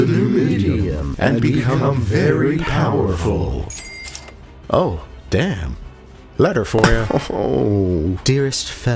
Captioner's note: pow